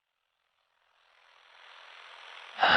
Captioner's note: static